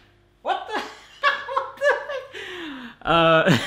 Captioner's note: laughs